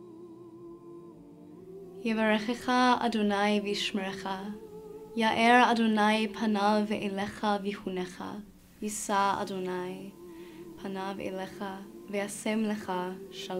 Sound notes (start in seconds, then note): 2.0 speaking in Hebrew